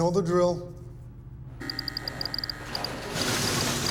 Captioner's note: door beeping; instrument clicking